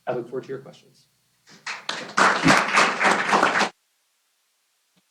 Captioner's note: applause